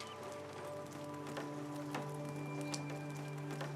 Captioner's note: rain drips softly